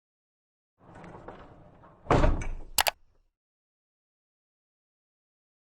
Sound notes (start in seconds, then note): 1.0 logo clattering; 2.8 mouse clicks